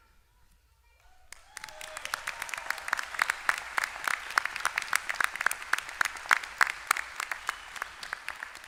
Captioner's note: applause